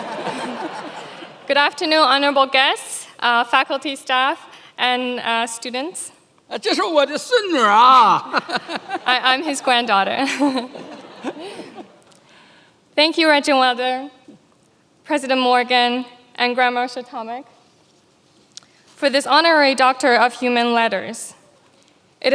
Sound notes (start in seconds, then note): 0.0 many laughing; 7.0 chairman speaking in foreign language; 9.2 laughs